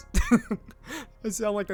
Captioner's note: chuckles